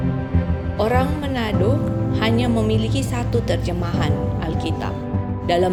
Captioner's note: non-english speech